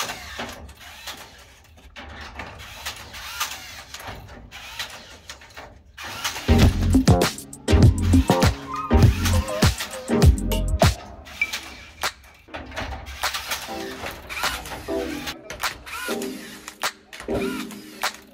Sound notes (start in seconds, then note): 0.0 rebar tying gun cranking; 6.5 upbeat jazz music continues; 12.8 rebar tying gun whizzing